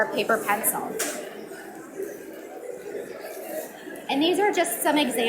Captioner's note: audience mumbling